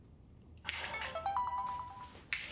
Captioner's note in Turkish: Telefon çalıyor